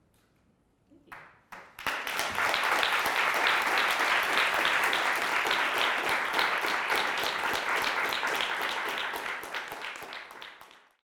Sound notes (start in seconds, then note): 2.2 audience applauding